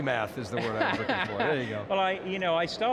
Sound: laughs

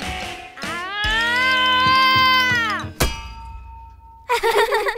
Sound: Malice screams; laughing

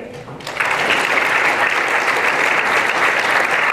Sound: applause

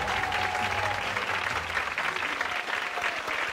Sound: applause

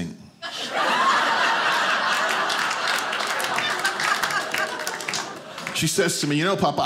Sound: audience applauding

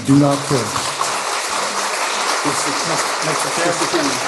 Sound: applause

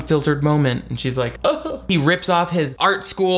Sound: imitates sobbing

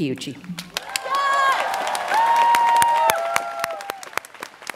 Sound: students cheering

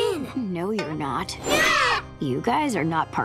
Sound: screaming

